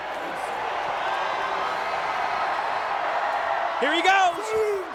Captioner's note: crowd cheers